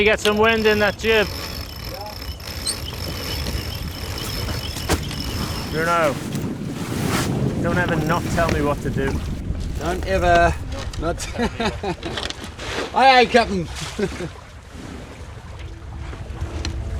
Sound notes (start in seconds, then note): 2.4 ropes winding; 10.6 laughing; 14.4 laughing